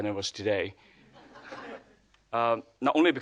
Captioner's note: audience laughing